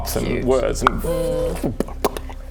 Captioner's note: pop pop pop